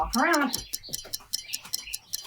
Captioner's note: timer ticking; feet clacking